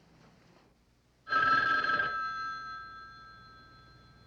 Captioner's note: phone ringing